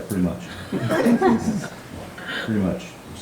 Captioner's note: audience laughing